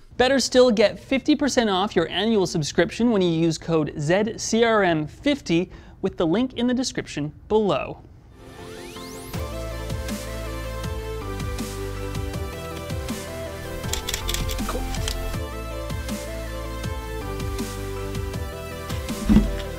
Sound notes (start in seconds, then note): 8.1 upbeat music; 13.7 camera shuttering